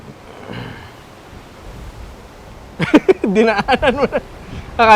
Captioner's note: chuckles